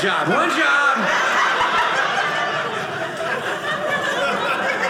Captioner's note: audience laughing